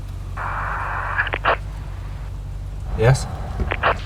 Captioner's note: radio hisses